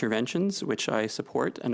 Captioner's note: speaking French